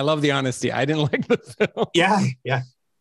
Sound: laughs

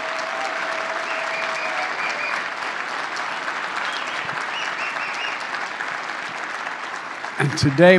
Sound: applause

